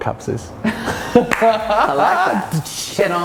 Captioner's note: laughing